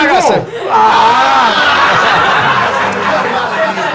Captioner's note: laughs